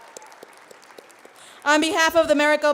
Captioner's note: applauding